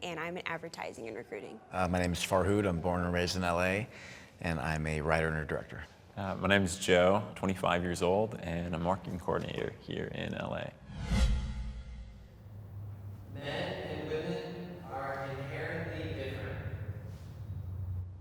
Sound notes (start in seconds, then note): 10.8 dramatic whooshing